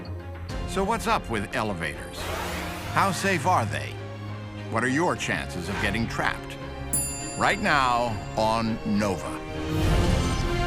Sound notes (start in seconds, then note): 6.9 bell chimes